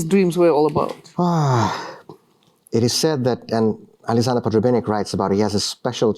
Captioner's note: sighs